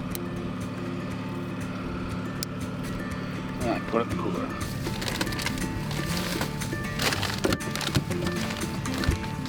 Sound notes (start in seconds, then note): 2.7 tag snapping; 6.1 twangy music